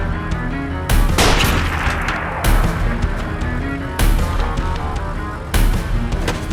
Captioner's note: gun fires